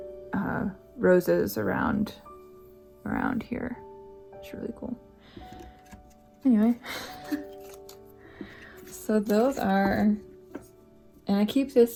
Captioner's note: laugh